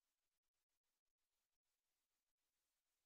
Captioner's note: none